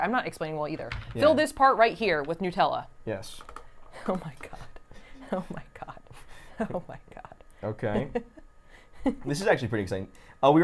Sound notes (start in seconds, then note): 5.2 laughs; 7.9 laughing